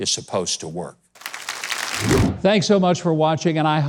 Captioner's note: audience applauds